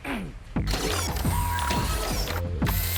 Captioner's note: clears throat; robotic whirring